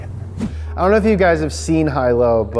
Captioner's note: air whooshing